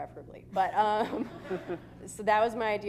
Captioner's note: laughter